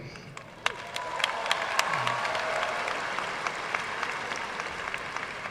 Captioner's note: audience cheering and applauding